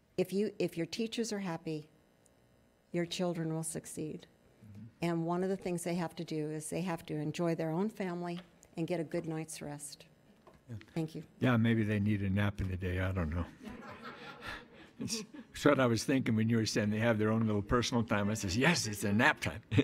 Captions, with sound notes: If your teachers are happy, your children will succeed, and one of the things they have to do is they have to enjoy their own family and get a good night's rest. Thank you. - Yeah, maybe they need a nap in the day, I don't know. (attendees laughing) That's what I was thinking when you were saying they have their own little personal time, I says, yes, it's a nap time!